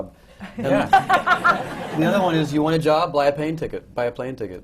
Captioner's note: laughter